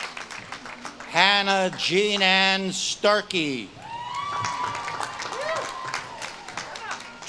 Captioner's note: audience claps and cheers